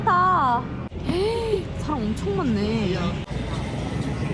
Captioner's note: sizzling